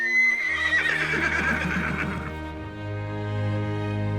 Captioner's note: horses neigh